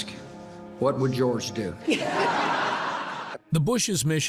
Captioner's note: audience laughing